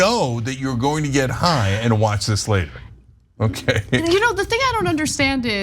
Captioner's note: laugh